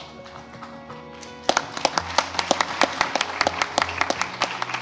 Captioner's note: applause